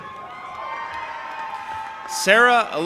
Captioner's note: audience applauding and cheering